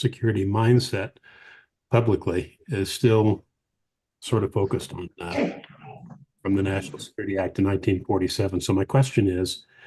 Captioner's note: off mic